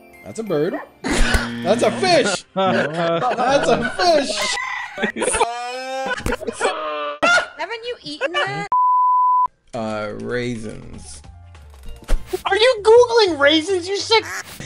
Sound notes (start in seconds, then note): 0.9 snorts; 1.3 buzzer; 2.2 laughter; 9.7 typing